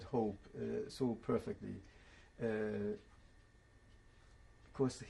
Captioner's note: pauses for 3 seconds